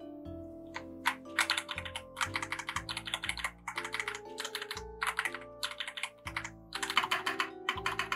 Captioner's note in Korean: 키보드 소리 테스트